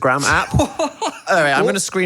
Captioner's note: laughing